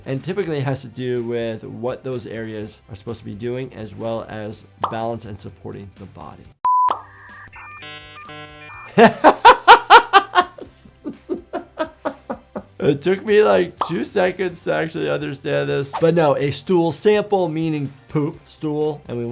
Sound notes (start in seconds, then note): 6.6 screen beeps; 8.8 doctor laughing